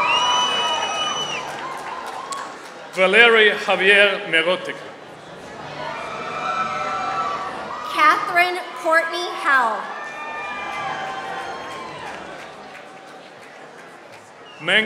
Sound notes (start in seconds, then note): 4.5 applause; 9.9 applause